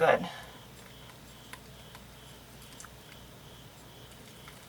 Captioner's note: rips